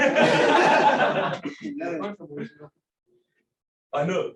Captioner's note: laughter